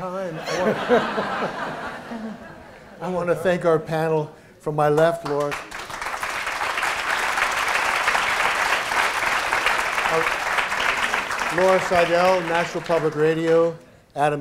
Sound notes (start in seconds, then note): 0.2 laughter; 5.5 applause